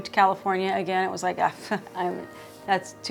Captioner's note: chuckles